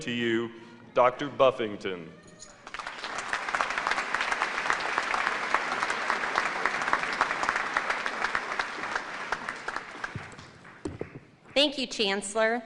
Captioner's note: applause